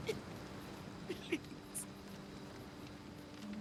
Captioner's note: sobbing